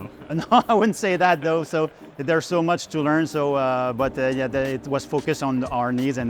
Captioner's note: chuckles